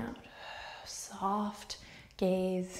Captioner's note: deep breath